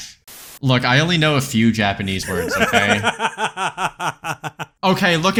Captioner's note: static; laughs